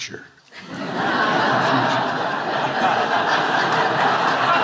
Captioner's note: audience laughing